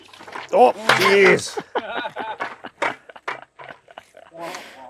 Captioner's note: laughing